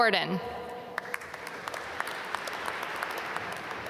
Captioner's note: applause